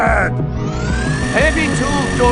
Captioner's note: spinning blades whir up